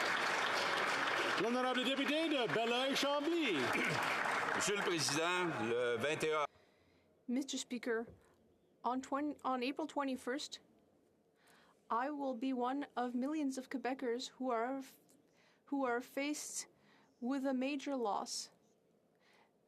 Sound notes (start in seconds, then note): 8.8 speaking French